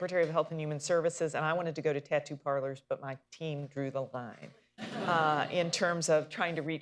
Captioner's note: laughter